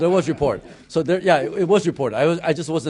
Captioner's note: laughter